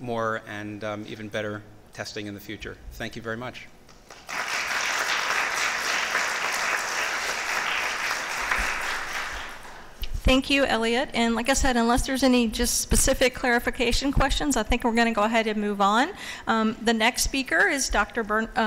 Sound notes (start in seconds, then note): 8.7 applause